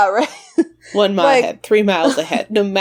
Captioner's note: laughs